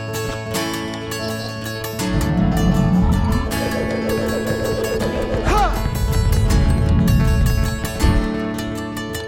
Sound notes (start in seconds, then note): 5.6 יֵהוּא נוהם